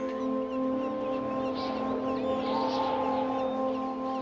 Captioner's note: wind blows